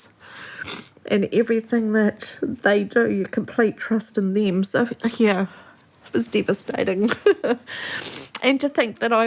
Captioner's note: sniffles